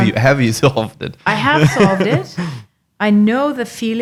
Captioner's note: laughing